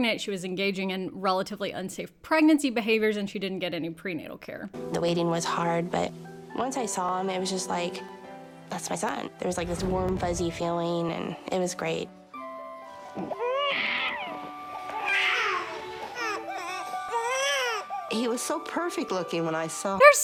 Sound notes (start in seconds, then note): 12.3 gentle serene music; 13.1 baby crying